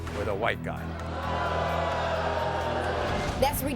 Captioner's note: audience booing